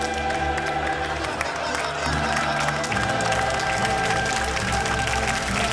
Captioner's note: applause